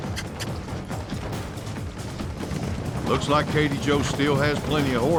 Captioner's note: hoofbeats